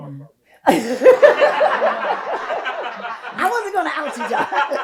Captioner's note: audience laughs